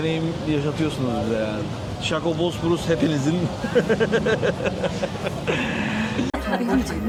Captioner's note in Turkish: kahkaha